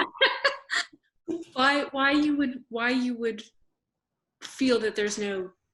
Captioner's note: laughs